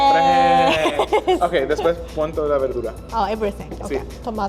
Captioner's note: speaking Spanish